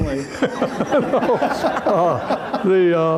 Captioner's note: laughter